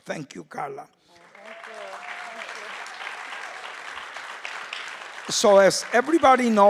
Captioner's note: crowd cheering